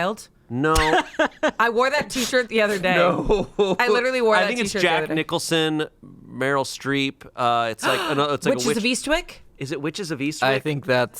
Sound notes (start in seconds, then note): 0.7 laughs; 3.5 laughs